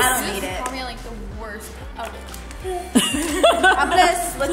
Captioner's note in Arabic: الأطفال يتحدثون ويضحكون